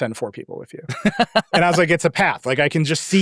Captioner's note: laughing